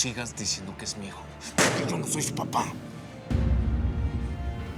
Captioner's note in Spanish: Puñetazo en la mesa